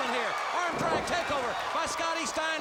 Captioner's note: crowd cheering